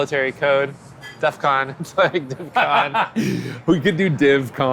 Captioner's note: both laughing